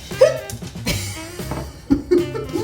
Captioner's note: hiccup; laughs